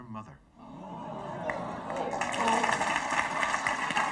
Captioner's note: audience ohs; audience applauding